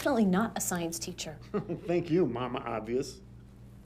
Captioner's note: chuckles